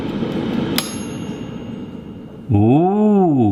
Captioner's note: air fryer pings